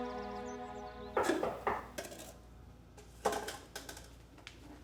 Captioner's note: knocking on door